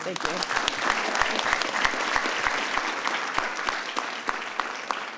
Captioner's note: audience applauds